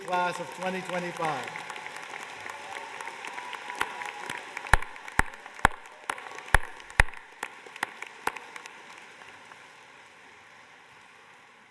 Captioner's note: applause